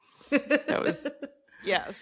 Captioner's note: laughing